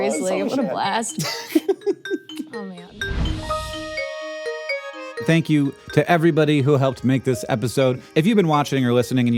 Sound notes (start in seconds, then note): 1.2 laughs; 3.6 bright music